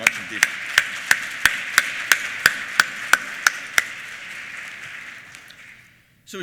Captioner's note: applause